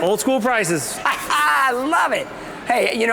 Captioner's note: laughs